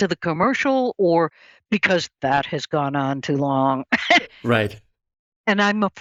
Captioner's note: laughs